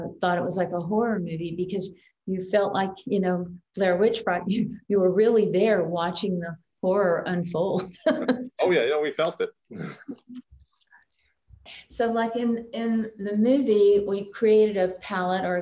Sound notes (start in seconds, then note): 7.8 chuckles